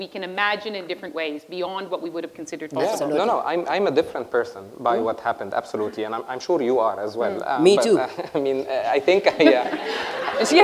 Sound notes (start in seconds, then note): 9.2 laughter